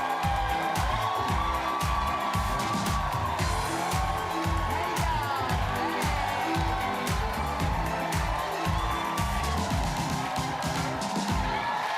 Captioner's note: cheers and applause